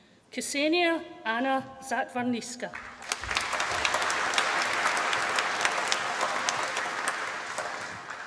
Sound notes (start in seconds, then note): 2.7 applause